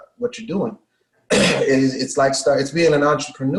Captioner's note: coughs